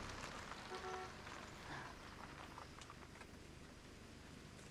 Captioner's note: car honks